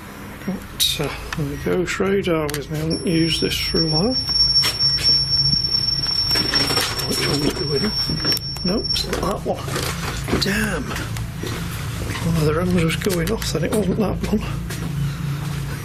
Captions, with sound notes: The ghost radar, haven't used this for awhile. (loud beep) Damn, it was just going off, I think it was the one